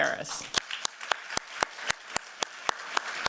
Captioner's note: applause